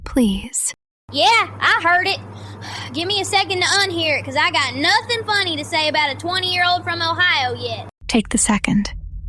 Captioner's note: breath